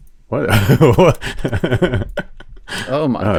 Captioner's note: laughs